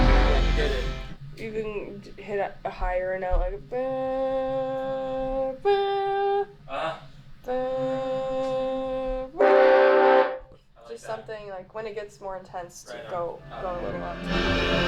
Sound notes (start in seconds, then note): 4.2 humming; 9.4 group humming; 13.4 slow music